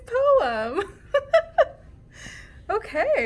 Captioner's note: laughing